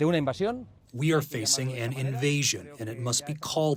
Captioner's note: through translator